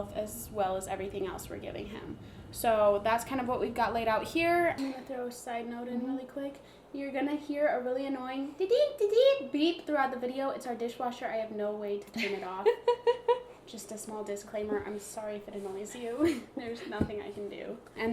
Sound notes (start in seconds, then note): 12.7 laughs